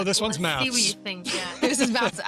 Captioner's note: laughter